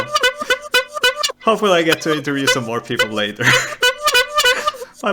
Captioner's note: still honking; honking doesn't end